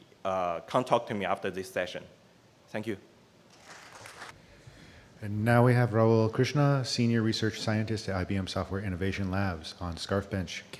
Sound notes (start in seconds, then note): 3.7 applause